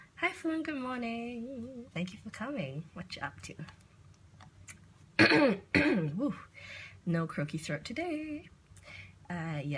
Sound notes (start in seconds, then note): 5.2 clears throat